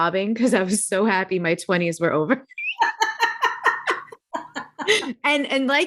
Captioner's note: chuckling